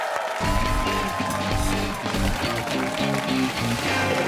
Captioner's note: cheers and applause